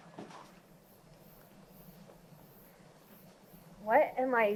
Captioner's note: crickets chirp